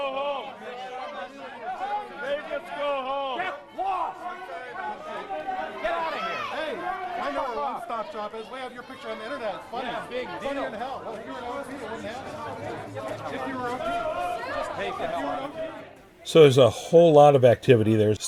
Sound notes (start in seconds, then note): 7.1 indistinct shouting